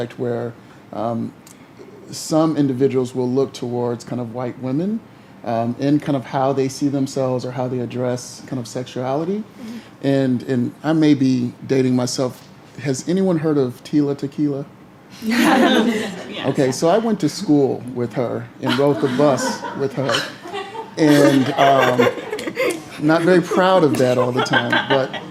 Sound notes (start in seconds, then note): 15.3 laughter